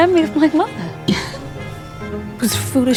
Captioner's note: Aemma sighs